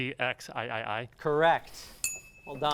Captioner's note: ding